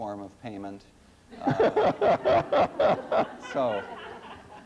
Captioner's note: laughter